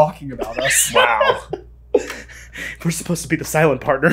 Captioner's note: laughing